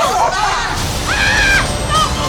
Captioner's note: laughing; screaming